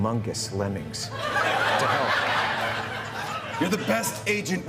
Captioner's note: laughter